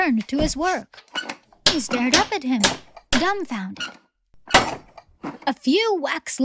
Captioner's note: hammering